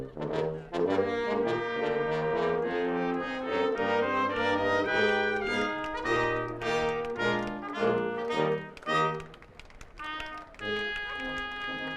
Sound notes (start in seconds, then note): 0.2 upbeat processional music; 7.4 audience applauding